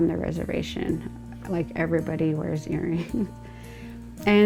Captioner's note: chuckling